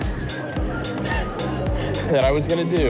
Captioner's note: chuckles